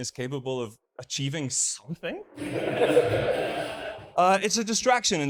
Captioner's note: audience laughs